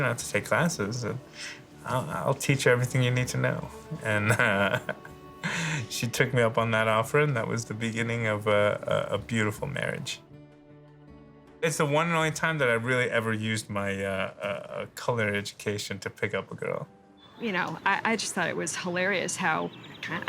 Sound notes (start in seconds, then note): 4.0 laughs